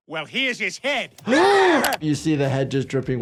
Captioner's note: gasping